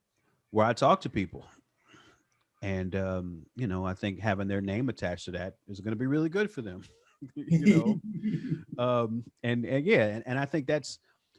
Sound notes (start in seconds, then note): 7.3 laughs; 7.3 laughing